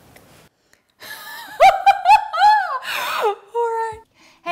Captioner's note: laughs